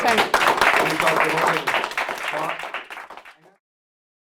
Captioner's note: applause